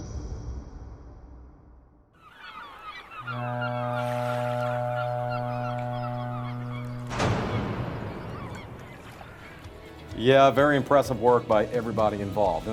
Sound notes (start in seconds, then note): 6.5 seagulls Chirping; 6.5 ship Horn